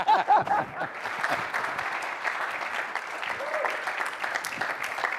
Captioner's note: laughs; applause